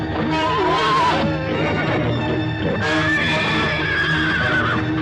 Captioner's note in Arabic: صهيل الحصان